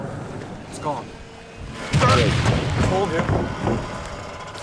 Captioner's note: thud